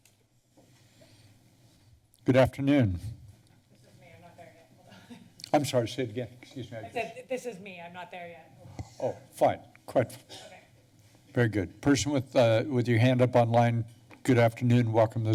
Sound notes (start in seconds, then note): 5.3 laughs